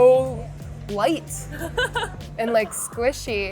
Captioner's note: laughing